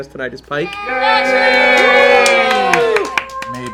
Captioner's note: cheering